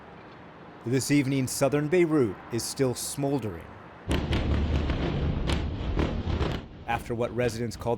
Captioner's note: voice-over